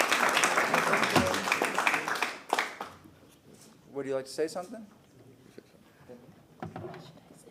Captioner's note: applause